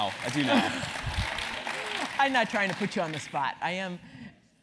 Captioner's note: applause